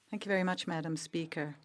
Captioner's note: speaking French